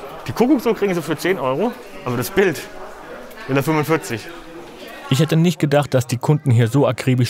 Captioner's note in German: none